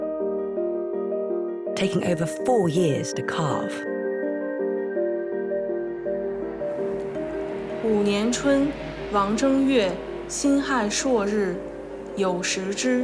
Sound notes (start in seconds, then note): 8.2 hablan un idioma extranjero